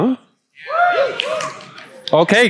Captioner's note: audience clamors loudly